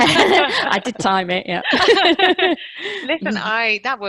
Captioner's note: laughter